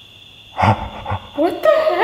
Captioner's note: laughing excitedly